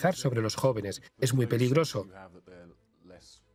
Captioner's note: voiceover